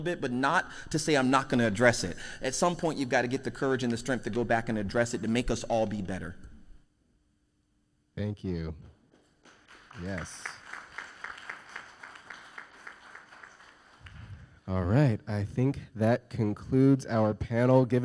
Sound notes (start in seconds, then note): 9.4 audience applause